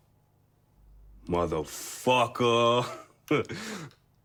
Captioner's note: chuckles